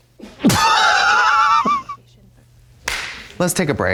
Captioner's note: Katya fizzles and slaps